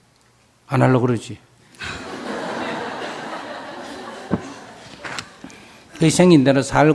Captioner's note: questioner/Audience Laughter